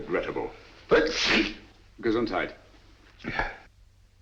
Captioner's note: sneezes